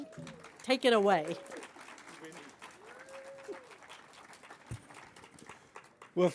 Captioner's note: applause